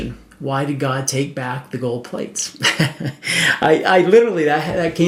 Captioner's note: chuckles